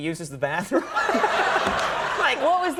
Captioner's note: public laugh